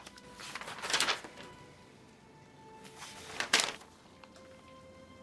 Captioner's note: folder clatters; paper rustling; papers continue rustling